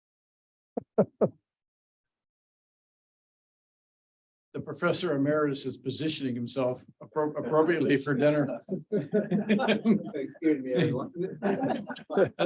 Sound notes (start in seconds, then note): 7.4 audience chuckling